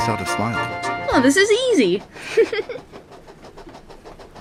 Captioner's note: giggles